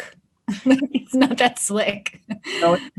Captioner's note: laughs